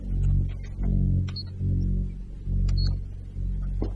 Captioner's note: cameras beeping